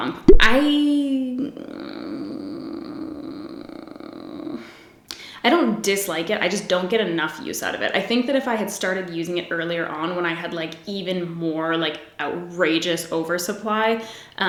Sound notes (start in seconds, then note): 0.3 groans; 4.5 sighs